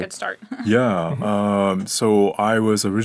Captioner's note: chuckling